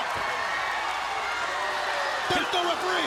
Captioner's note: crowd cheering